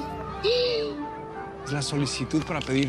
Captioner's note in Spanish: Exclamación